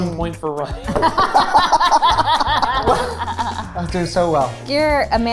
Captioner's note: group laughing